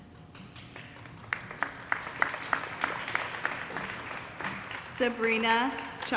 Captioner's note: audience applauding